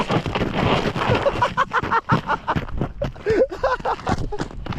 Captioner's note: laughing